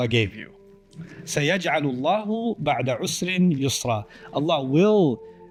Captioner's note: Arabic